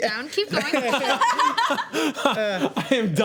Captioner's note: laughing